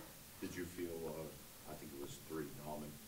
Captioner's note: voiceover